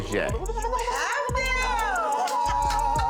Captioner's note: vocalizing; imitating choir